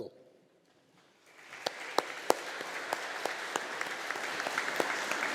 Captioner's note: audience applauding